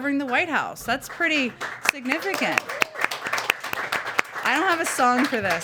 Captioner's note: applause